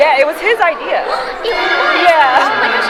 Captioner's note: gasps